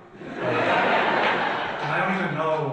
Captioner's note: audience laughs